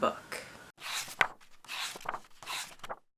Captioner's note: pages turning